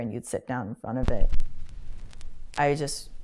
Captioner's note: needle drop picks up static